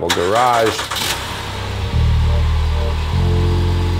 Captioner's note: minivan engine starts